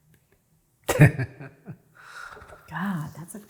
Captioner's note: chuckles